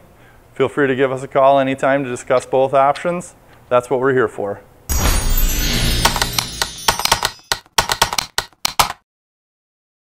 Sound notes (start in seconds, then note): 4.9 chimes; 6.0 typewriter clicks